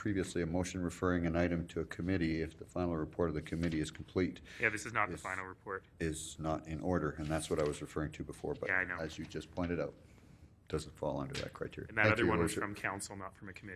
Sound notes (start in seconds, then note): none